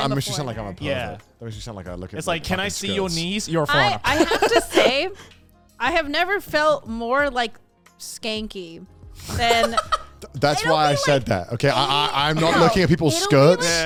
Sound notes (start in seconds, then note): 4.1 laughs; 9.5 hosts laugh